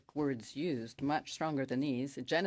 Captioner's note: speaking French